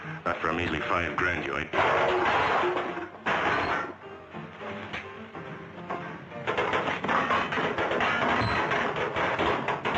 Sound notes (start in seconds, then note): 1.7 trash clattering